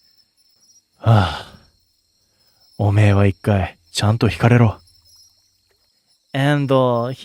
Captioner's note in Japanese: ため息